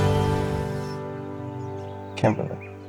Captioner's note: birds chirping